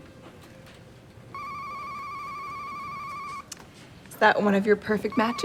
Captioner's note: Wes' phone rings